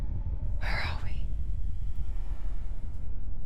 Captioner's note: whisper